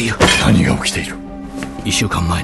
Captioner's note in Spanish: golpea la mesa